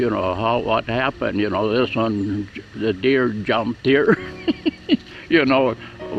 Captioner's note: laughs